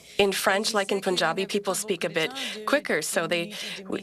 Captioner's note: speaking French